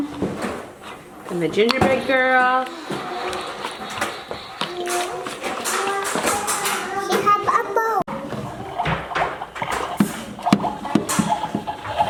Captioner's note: steam and whistling noises